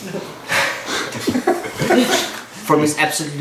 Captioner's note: cheerful laughing